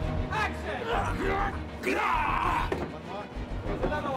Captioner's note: grunting